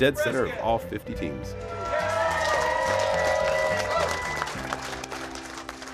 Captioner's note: cheering and clapping